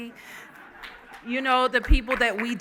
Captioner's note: laughing